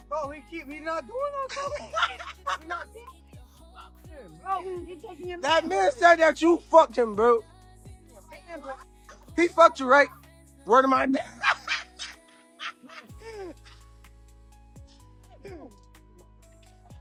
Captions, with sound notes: Oh, he keep, he not doing that to me. (laughing) That man said that you fucked him, bro. He fucked you, right? Where do my, (laughing)